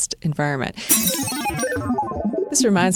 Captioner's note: glass smashing; digital bloops